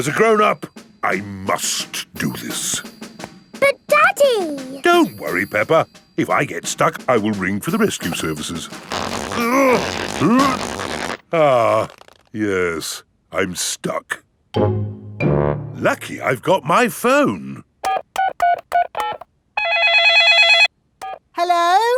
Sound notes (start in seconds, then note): 9.5 grunting; 18.0 dialing; 19.6 cell phone ringing